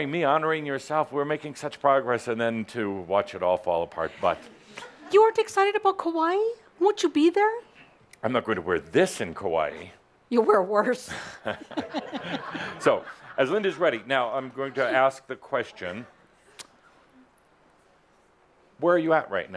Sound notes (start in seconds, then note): 11.2 laughing; 11.4 chuckles